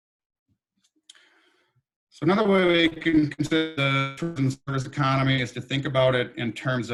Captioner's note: microphone cut out